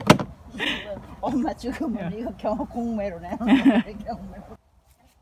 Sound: laughing

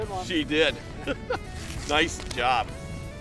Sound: laughing

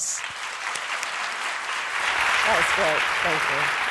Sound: crowd applauding

